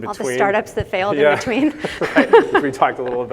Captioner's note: laughs